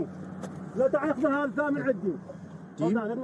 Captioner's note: speaking Arabic